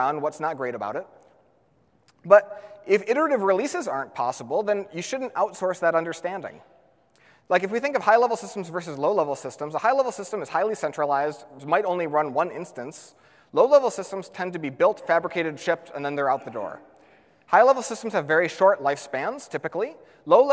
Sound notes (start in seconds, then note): none